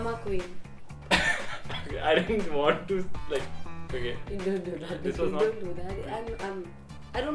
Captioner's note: laughing